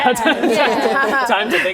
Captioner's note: laughing